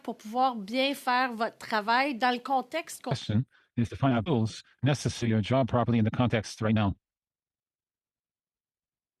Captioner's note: speaking French